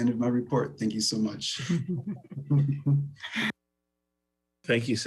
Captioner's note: laughs